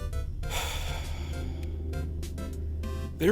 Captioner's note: sigh